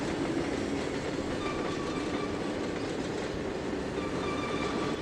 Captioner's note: train whistle